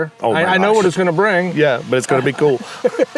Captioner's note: chuckles